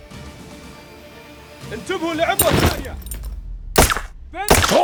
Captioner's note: enemy yelling